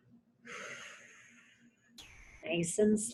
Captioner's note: exhales